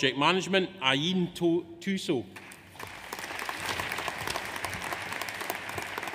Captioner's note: audience applauds